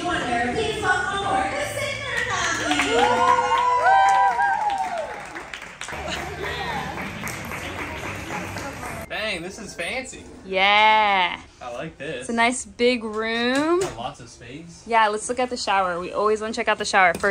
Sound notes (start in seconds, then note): 3.7 cheering and clapping